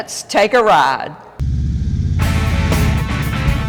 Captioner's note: engine hums; upbeat music